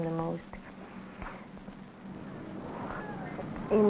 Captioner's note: children's outdoor laughter